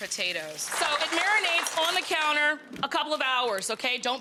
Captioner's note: audience clapping